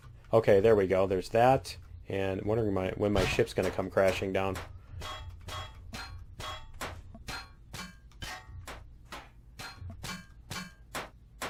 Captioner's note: pinging